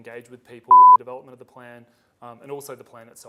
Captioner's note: beep